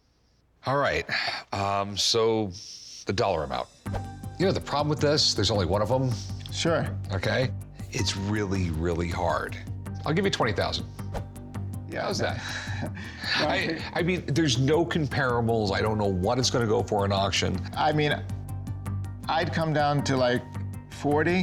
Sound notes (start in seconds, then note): 12.3 exhales; 12.3 chuckles